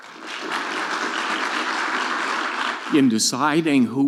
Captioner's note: audience clapping